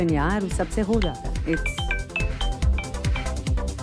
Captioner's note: Phone ringing